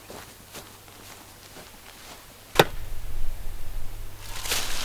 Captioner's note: footsteps crunch on grass; leaves crunch